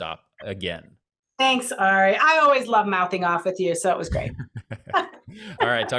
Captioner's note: laughs